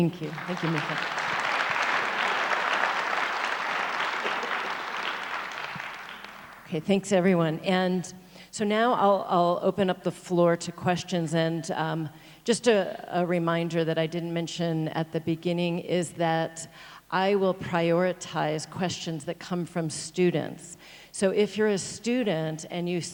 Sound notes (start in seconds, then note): 1.8 audience applauds